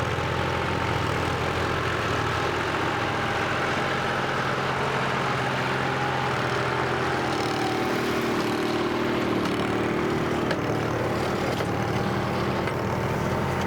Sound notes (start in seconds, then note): 7.6 bailing machine sounds